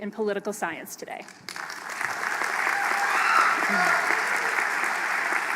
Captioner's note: applause